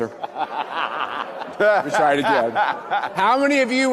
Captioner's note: laughing